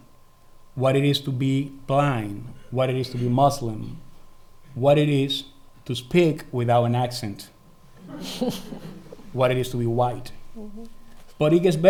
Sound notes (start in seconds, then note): 8.0 laughing